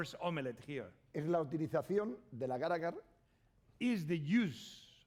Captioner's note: speaking spanish